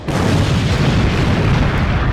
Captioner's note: explosions